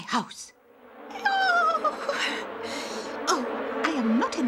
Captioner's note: buzzing